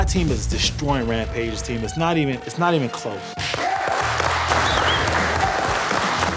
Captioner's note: cheers and applause